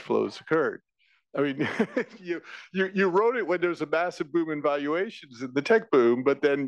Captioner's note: laugh